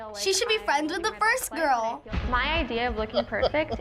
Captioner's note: laughs